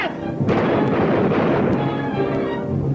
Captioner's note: gunshots ringing out; tense music continues